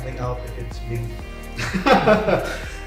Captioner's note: laugh